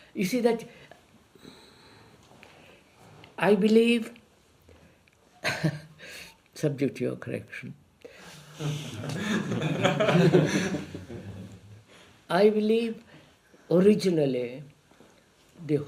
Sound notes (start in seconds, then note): 8.5 laughs; 11.2 laughter